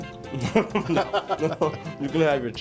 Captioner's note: laughing